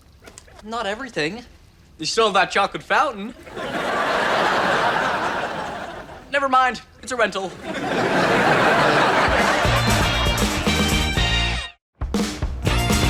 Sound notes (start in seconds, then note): 3.4 audience laughs; 9.2 upbeat music